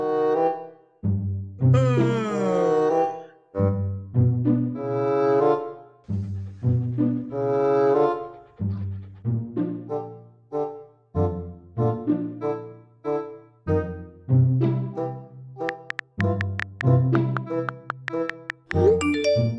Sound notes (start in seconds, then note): 1.7 yawns